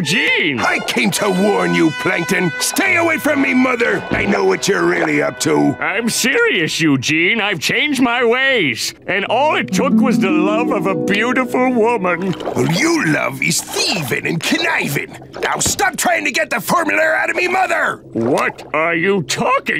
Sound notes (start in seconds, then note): none